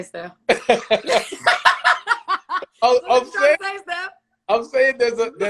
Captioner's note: laughs